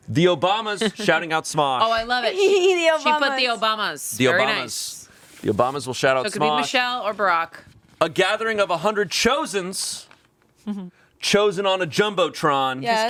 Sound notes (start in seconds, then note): 2.2 laughing